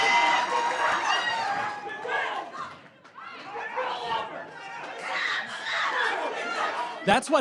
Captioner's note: audience yells